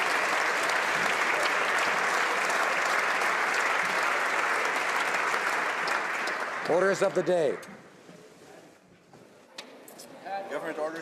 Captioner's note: applause